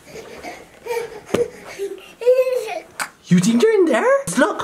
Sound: baby mumbles excitedly

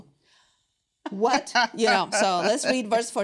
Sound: laughs

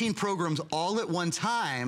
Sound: counting

